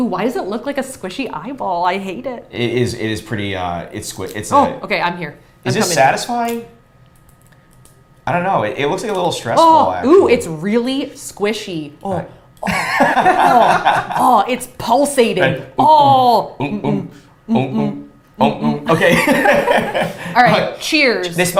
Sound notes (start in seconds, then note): 12.6 both laughs; 17.4 both hum melodiously